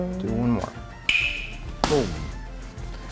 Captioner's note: crack